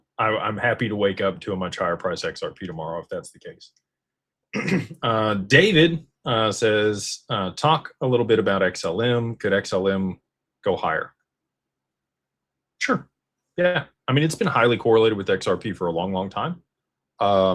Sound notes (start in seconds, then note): 4.5 clears throat